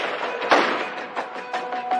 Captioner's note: gunshots